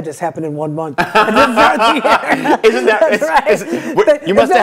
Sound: laughter

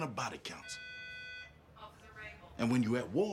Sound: P.A. system beeping

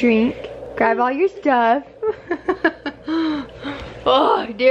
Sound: laughs

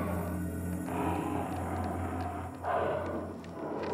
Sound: animal Growling

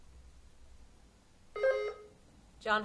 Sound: buzzer sounding

